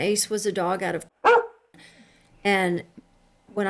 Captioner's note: bark